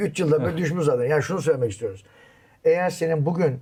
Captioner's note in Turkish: kahkaha